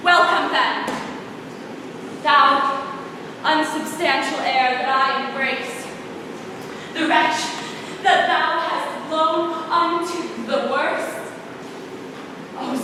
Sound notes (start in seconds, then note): none